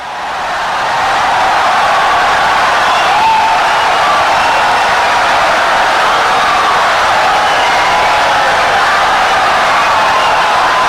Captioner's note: wild applause and cheering for 17 seconds